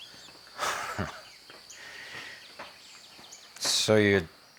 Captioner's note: chuckling